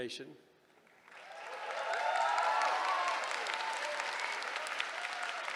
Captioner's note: cheering